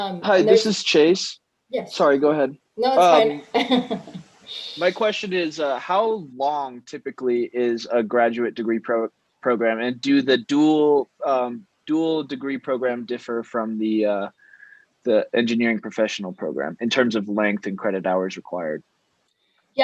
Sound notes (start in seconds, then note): 3.3 laughs